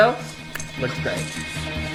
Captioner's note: intense music; sucks teeth